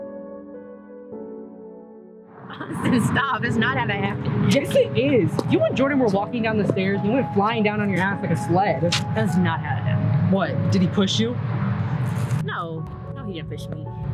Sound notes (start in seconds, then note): 2.5 laughing